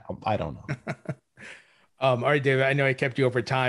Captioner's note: laughs